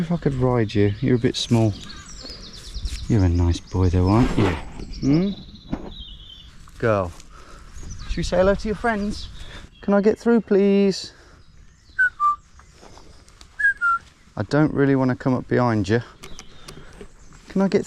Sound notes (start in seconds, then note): 11.9 whistling